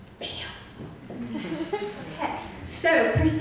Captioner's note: audience laughs